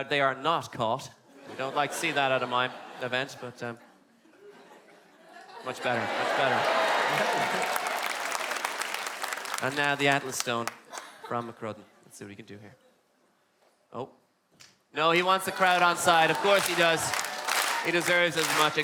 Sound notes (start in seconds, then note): 5.9 crowd cheerin